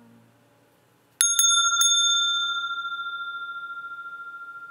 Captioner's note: Klang der Glocke